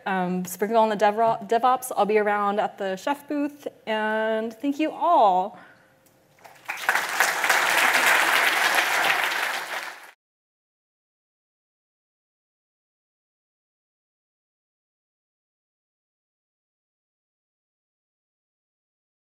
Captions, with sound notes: Speaking on DevOps, I'll be around at the Chef booth. Thank you all. [applause]